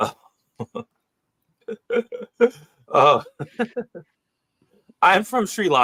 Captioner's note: laughs